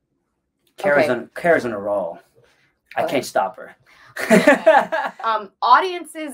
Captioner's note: laughs